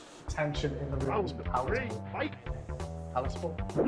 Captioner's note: video game Voice